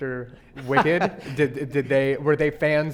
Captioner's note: laughing